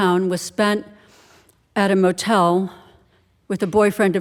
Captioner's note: none